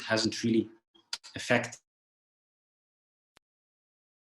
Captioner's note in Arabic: انقطع الصوت